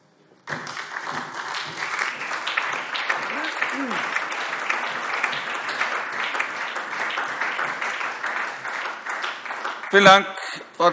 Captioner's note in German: Beifall SPD und DIE LINKE